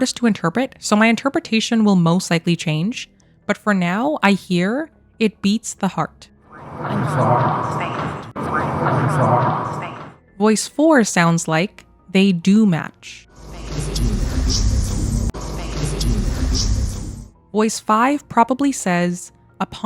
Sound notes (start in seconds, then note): 13.4 Voice 4 repeating twice